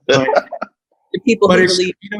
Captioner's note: laughs